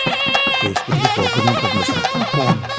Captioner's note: murmuring